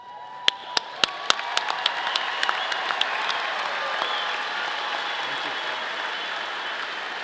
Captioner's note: audience cheering; audience applauding